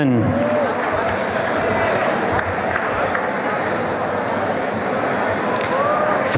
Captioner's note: applause and cheering